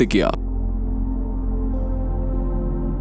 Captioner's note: speaking in foreign language